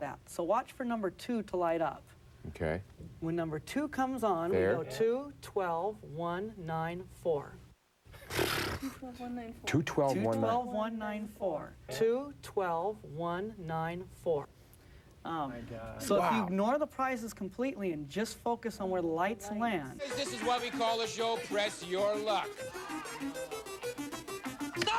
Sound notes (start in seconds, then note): 8.4 exasperated sigh